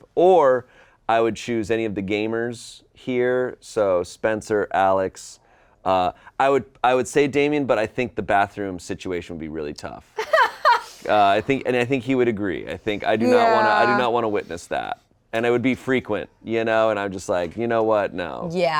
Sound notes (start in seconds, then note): 10.2 laughing